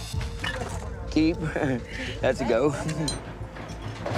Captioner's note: laughs